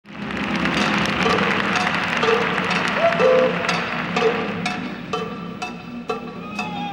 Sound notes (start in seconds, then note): 0.0 audience clapping; 2.2 cow bell clanging; 4.1 cow bell clanging